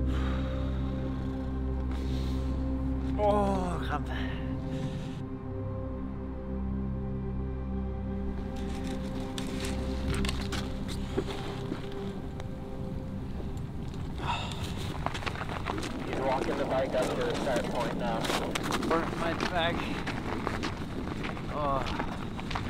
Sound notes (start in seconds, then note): 0.0 exhales; 16.1 voice over the radio; 19.8 feet squelching snow